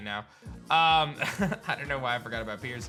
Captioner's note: chuckles